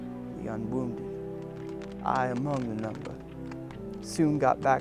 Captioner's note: voiceover